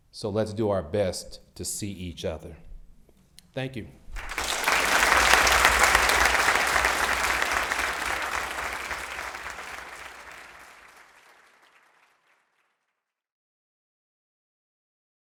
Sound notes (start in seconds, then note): 4.1 audience applauds